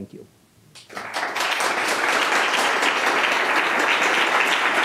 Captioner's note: audience applauds